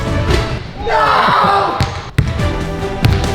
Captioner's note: player screams; upbeat orchestral music; ball bounces